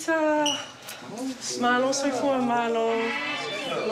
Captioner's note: speaks samoan